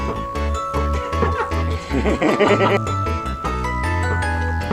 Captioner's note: laughing